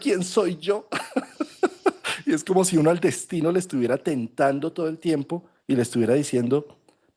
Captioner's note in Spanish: risas